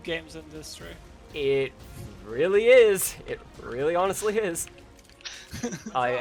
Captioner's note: scholarly chuckle